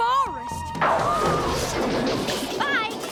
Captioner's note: crash!